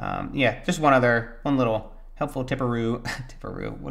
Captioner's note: laughs